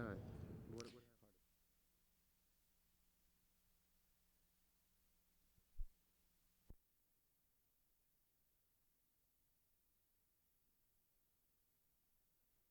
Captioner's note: silence